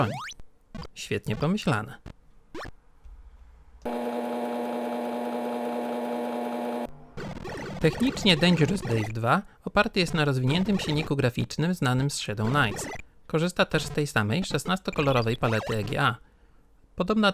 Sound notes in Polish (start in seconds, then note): 3.8 dźwięk działającej stacji 3.5